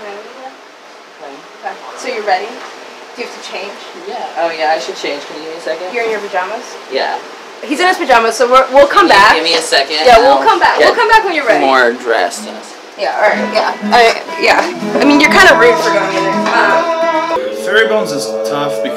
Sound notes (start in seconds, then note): 17.3 hums badly in the background